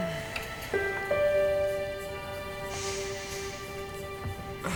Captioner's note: dramatic music; Katie groaning